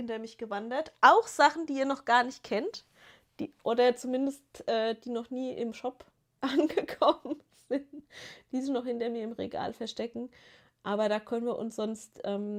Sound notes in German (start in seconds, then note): 6.4 gelächter